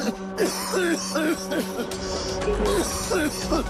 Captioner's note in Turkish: Öksürüyor